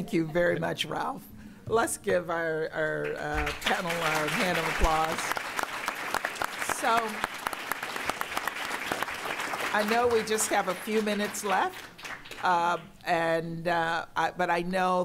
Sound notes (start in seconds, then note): 4.8 applause